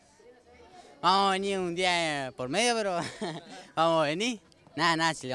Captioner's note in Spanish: Risas